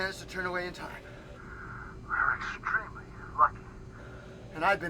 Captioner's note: Jenkins On P.A